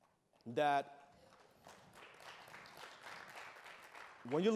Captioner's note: applause